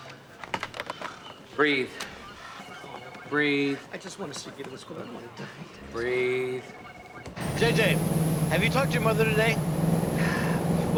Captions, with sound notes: Breathe. Breathe. I just want Lucia to get in this school. I don't want to die. Breathe. J.J., have you talked to your mother today? (sighs)